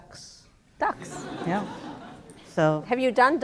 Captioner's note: laughter